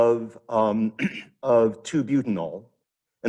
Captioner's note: clears throat